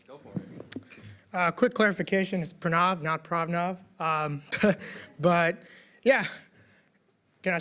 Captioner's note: laughs